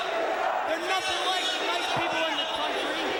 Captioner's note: crowd cheering